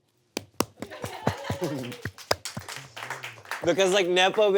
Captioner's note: applauds; audience laughs